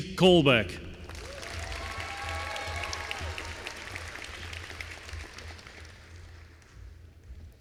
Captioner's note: applause